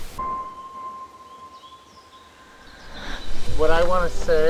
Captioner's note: birds chirping; dramatic music; bright music